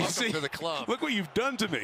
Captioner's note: laughing